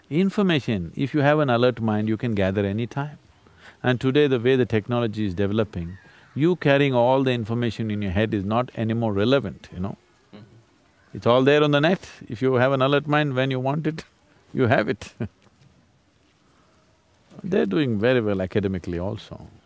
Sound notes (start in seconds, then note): 14.9 laughs